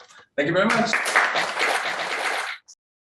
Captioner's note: audience applauding